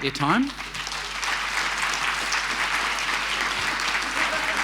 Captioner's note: applause